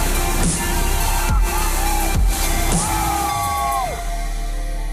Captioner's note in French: homme crie